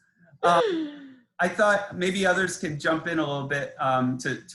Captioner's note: laughs